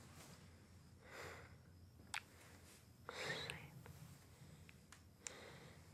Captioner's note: Chris sighs